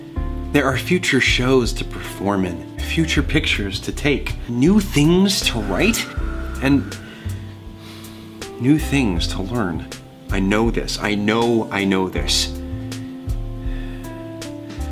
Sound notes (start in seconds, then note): 5.8 exhales loudly; 12.0 slow music